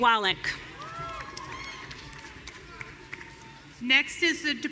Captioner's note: audience cheering